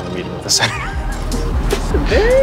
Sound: chuckling

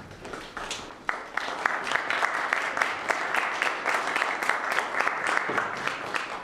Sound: applause

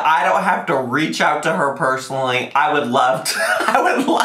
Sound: laughs

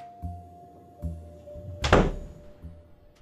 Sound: door slammed

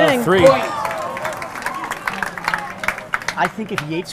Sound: audience clapping

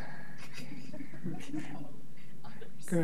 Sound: class laughs

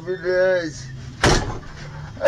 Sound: bang

